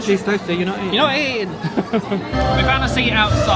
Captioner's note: chuckles